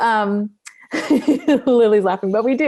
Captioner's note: laughs